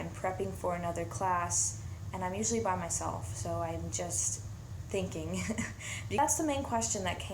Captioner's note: laughs